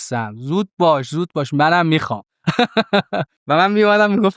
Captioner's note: laughs